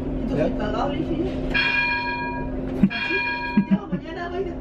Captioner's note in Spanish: sonido de campana